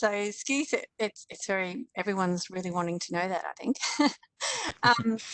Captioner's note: laughs